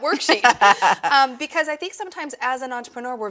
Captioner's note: laughs